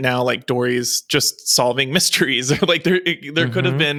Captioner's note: chuckles